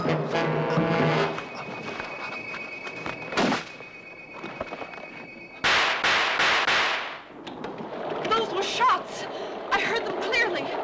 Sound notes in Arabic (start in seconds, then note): 5.6 صوت طلقات نارية